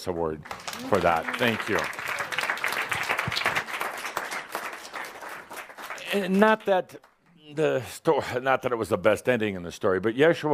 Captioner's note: audience applause